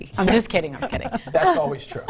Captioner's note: all chuckle